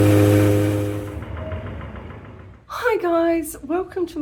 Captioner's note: loud pump; industrial hammer